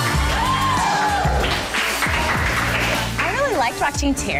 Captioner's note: cheering